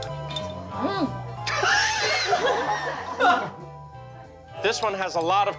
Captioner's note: laughs